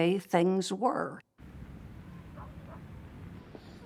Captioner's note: dog barking